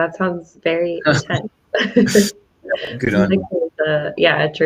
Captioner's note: laughs